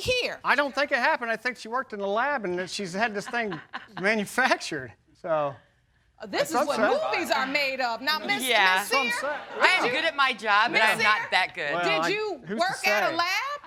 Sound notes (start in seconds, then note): 4.7 laughs